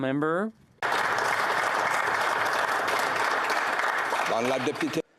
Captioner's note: applause